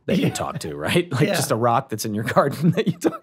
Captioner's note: laughs